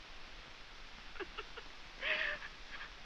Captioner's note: crying